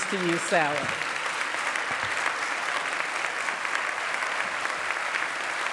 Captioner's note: applause